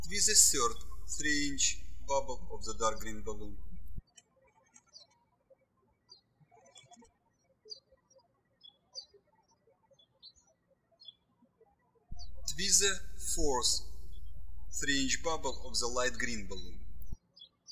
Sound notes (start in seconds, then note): 4.8 birds chirping; 17.4 birds chirping